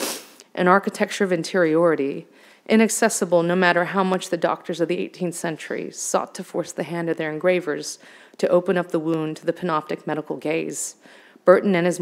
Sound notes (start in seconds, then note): none